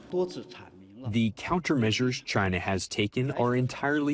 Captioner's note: through translator